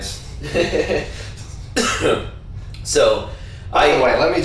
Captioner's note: laughs